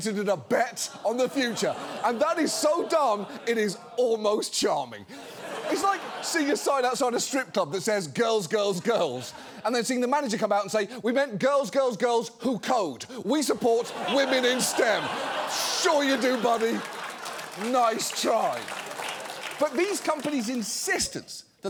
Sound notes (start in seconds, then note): 0.6 audience laughs; 14.8 audience laughs